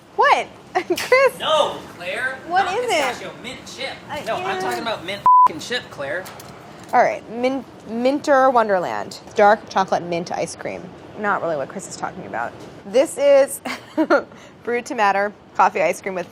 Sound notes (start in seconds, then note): 13.8 laughs